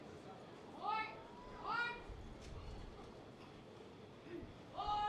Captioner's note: commander shouting